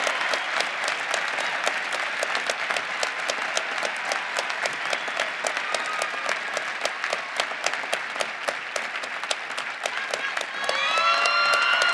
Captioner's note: cheering and applause